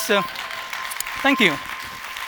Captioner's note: applause